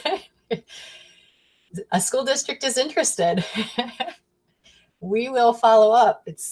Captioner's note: chuckles